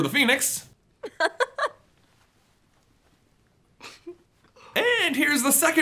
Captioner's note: awkward laughing